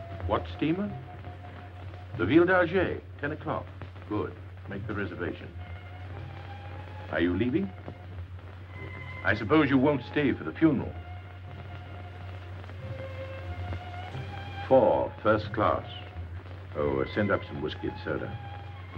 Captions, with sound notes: - What steamer? The (speaking foreign language), 10 o'clock? Good, make the reservation. Are you leaving? I suppose you won't stay for the funeral. Four, first class. Oh, and send up some whiskey and soda.